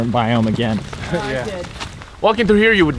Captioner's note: all agreeing